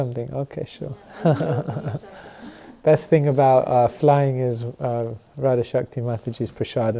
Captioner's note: chuckles